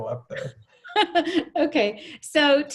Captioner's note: laughing